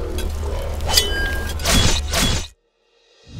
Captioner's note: Stabbing sound